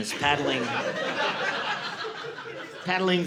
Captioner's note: audience laughing